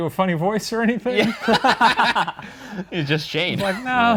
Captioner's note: both laughing